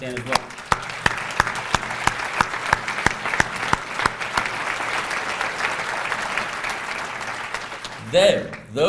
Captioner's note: applause